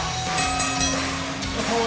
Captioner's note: bell ringing